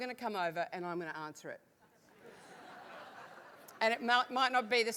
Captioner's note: laugh